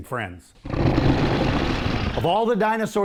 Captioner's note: dinosaur growls